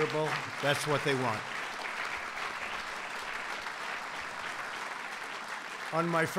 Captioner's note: applause